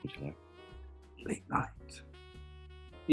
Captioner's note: whispers